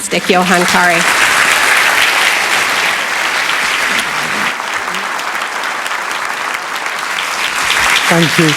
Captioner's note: applause